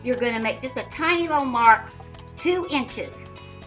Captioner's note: none